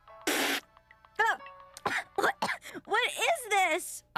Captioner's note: spits out drink; coughing